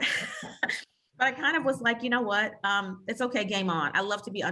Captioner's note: laughs